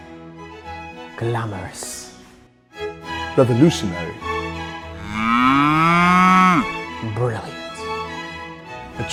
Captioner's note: mooing